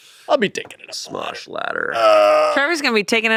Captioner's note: groans